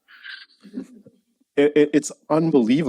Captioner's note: laughing